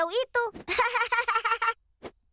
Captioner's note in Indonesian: Pinkfong tertawa